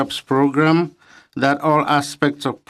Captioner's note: speaking French